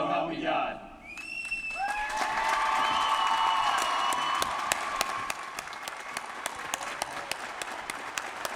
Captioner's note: applause